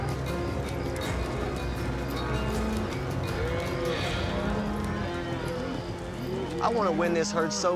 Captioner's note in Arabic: موو الماشية